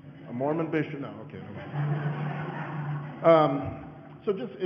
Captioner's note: audience laughing